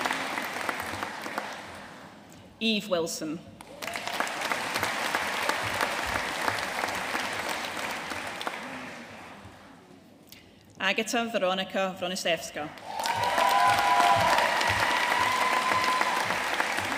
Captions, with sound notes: Eve Wilson. (AUDIENCE APPLAUDING) Agata Weronika Wroniszewska. (AUDIENCE CHEERING AND APPLAUDING)